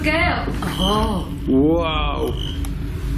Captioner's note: metre beeping